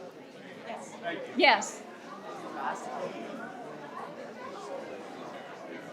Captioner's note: participants chatter